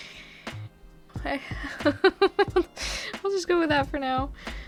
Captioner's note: laughs